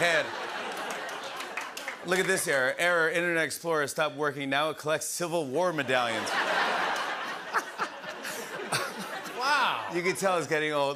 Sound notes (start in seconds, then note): 0.0 laughter; 5.8 laughter